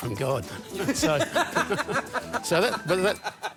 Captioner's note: laughs